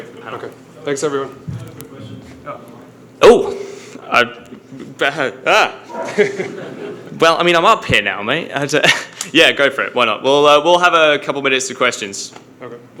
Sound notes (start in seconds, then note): 4.2 British accent; 5.8 audience laughs